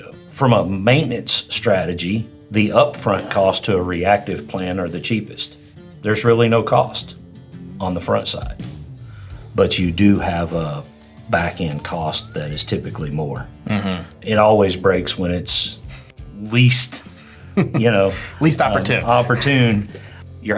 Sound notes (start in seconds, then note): 11.6 slot machine ringing; 17.5 chuckling